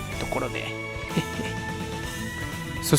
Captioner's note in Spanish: Risas